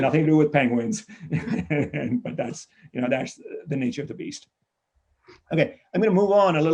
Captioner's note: laughs